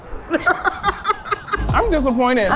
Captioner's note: laughing